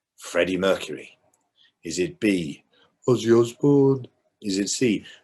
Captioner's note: impersonates ozzy